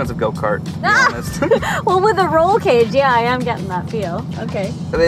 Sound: laughs

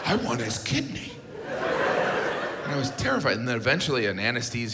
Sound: audience laughs

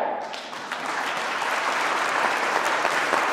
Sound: clapping

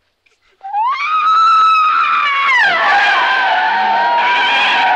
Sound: screams loudly; tires screeching

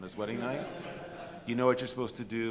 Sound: audience laughs

